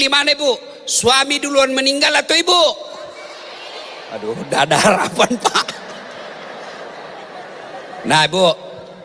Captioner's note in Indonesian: tertawa